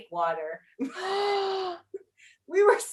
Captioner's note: sighs